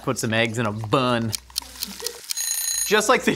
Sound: timer Ticking; timer Ringing

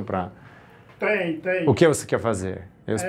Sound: both speak Portuguese

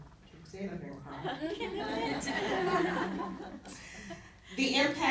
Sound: laughter

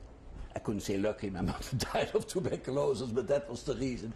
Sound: laughs

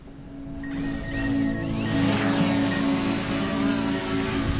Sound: drone buzzing

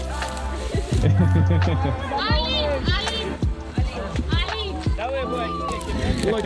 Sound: laughing and speaking Romanian

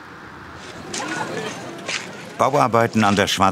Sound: lively babble of voices

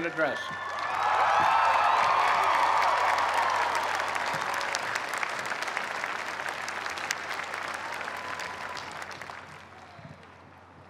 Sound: cheers and applause

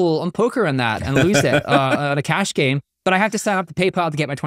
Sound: laughing

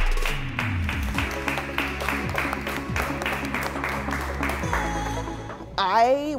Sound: upbeat pop music; competitors applauding

